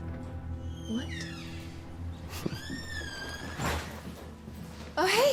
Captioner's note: door creaks